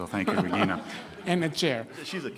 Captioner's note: laughing